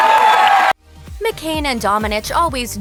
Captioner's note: cheers